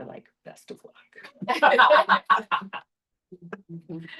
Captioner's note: laughter